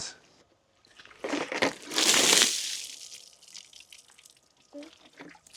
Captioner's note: water sloshing